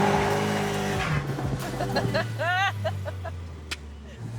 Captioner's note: laughs